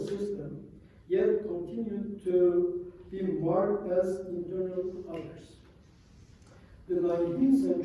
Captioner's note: non-english